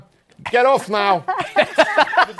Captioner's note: laughter